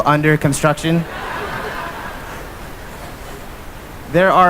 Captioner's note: laughter